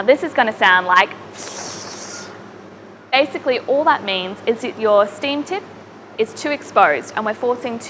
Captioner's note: gurgling